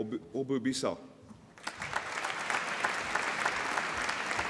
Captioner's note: applause